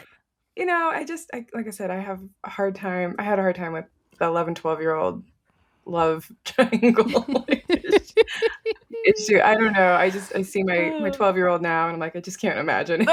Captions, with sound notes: You know, I just, like I said, I have a hard time. I had a hard time with an 11-12 year old love triangle. [laughing] It's true. I don't know, I see my my 12 year old now and I'm like, I just can't imagine it.